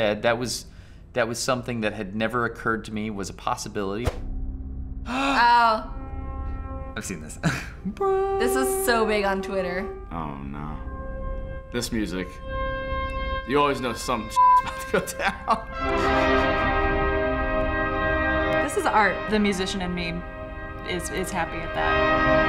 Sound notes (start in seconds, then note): 5.0 gasps; 6.9 hums chord; 7.4 chuckles; 10.3 suspenseful music; 15.7 dramatic music